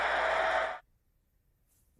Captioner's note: applause